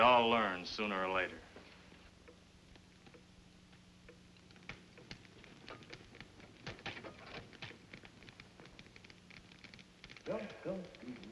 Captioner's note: humming